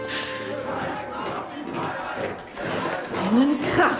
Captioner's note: marching and shouting outside